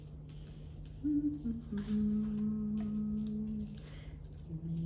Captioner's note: hums